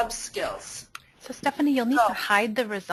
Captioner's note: voiceover